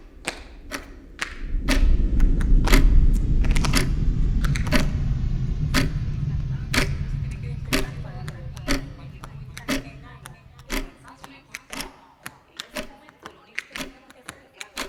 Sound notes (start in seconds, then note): 5.9 indistinct chatter